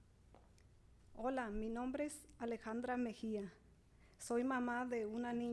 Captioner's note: speaking Spanish